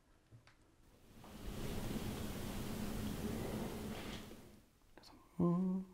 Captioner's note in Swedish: Stönande ljud fångas av kamera mikrofonen